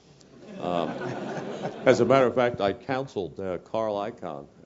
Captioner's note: laugh